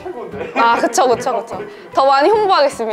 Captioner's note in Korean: 웃음